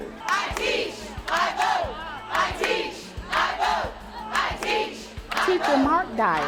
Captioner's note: crowd chanting